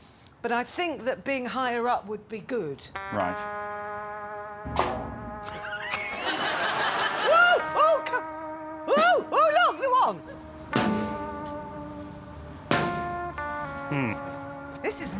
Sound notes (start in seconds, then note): 4.7 single beat; 5.5 laughing; 10.7 single beat